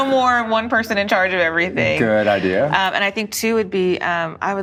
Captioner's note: laughs